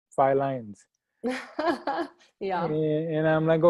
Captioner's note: laughs